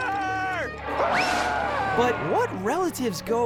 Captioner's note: screaming